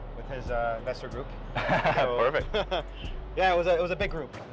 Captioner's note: chuckles